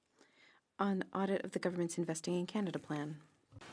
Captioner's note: speaking in French